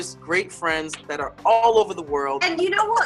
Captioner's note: laughs